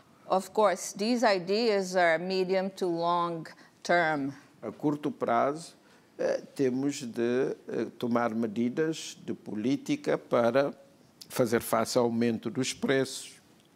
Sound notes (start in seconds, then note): 5.8 speaking portuguese